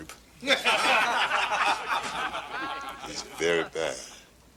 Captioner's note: laughing